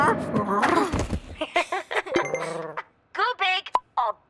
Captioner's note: D.O.R.I.S. laughs